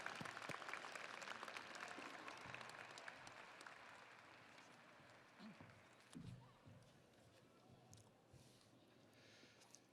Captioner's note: audience applauding